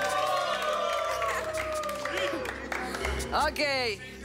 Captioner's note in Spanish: Exclamaciones